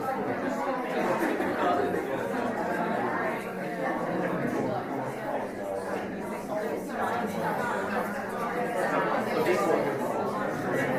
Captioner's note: talking amongst each other